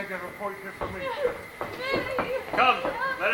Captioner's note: Hero cries